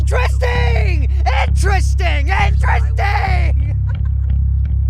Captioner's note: laughs